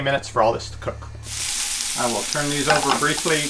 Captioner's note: food sizzles